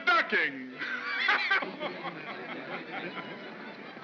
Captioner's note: Cole laughs